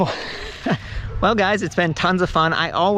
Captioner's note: laughing